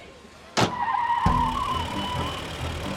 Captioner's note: tires screeching; dramatic music